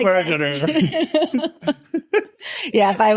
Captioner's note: laughing